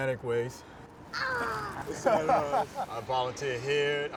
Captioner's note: dad laughs